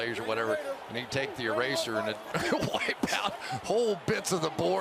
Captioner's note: laughs